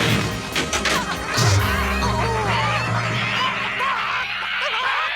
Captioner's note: chickens clucking